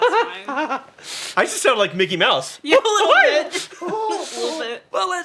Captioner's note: high-pitched giggle-squeak